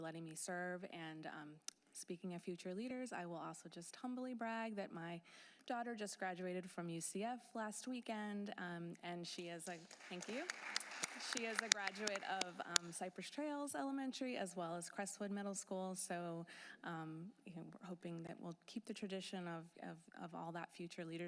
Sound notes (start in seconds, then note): 13.3 applause